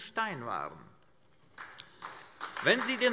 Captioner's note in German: Beifall AfD